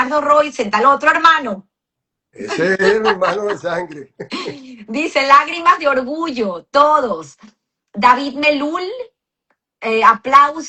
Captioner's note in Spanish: risas